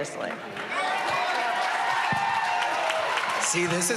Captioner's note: cheering and applause